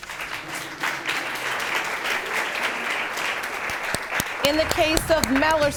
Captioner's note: audience clapping